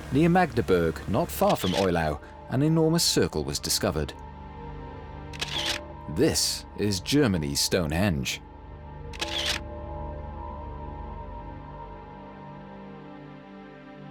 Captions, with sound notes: Near Magdeburg, not far from Eulau, an enormous circle was discovered. -[camera shutter clicks] -This is Germany's Stonehenge. [camera shutter clicks]